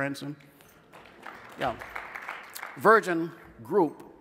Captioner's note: scattered applause